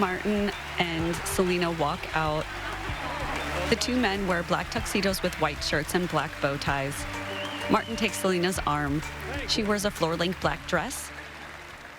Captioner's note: applause